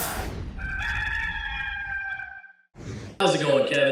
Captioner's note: rooster crowing